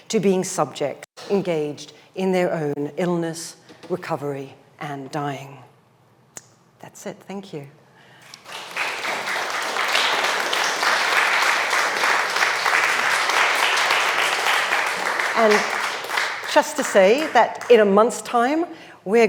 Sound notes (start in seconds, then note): 8.6 audience applauds